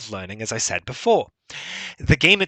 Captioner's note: breathes heavily